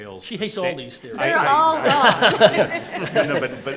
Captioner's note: group laughs